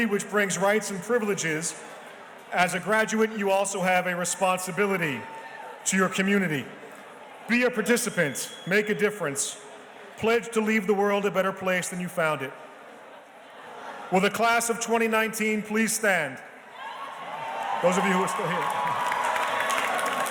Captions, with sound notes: which brings rights and privileges. As a graduate, you also have a responsibility to your community. Be a participant, make a difference. Pledge to leave the world a better place than you found it. Will the Class of 2019 please stand? (audience cheers and applauds) Those of you who are still here.